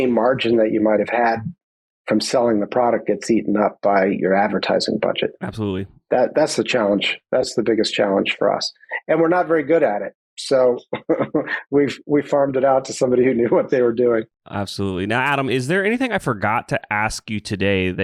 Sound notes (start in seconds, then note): 10.3 laugh